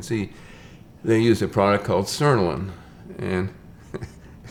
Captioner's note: chuckles